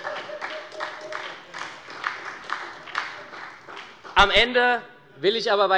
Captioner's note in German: Heiterkeit und Beifall bei der SPD